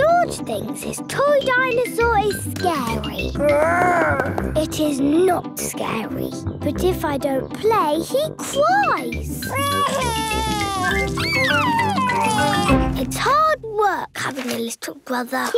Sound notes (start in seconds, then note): 3.7 growls; 9.5 crying